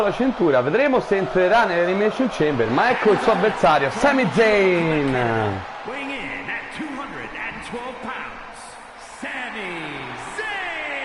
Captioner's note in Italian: Applauso